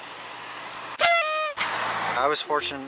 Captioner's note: party horn blares